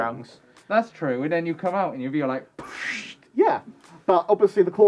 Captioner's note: puff